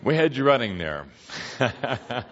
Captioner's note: laughing some more